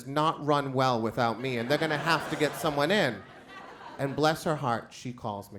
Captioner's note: crowd laughs